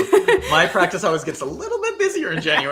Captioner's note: laughing